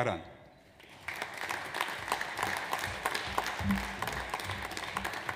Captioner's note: audience applauds